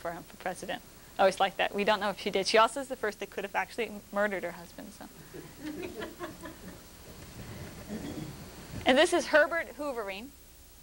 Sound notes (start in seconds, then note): 5.4 laughter